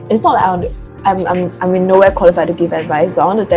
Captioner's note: stutters